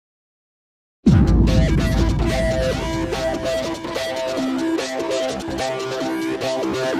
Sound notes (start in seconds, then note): 1.1 drum gong